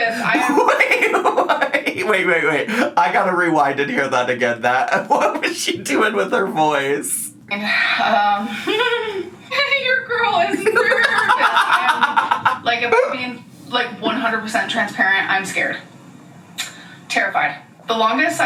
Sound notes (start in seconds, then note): 0.0 laughs; 8.6 giggles; 10.6 laughs